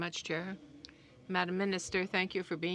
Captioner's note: speaking French